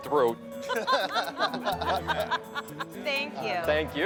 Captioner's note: both laughing